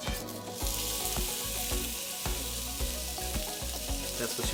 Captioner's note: chicken sizzling